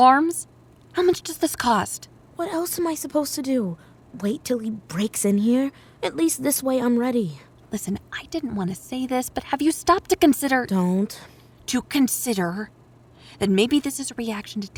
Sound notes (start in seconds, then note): 2.3 whispered; 7.7 whispered; 11.0 whispered